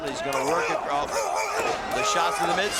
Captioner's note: grunting